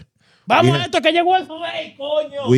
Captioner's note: speaking In Foreign Language